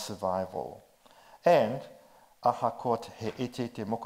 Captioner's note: speaks in foreign language